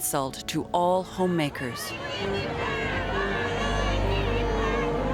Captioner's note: crowd yelling